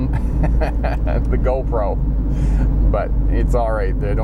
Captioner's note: laughs